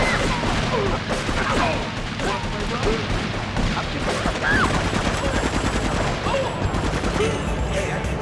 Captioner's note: screaming; screaming